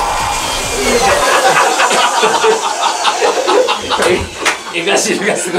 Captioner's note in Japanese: 笑い